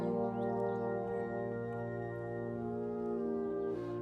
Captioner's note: speaking French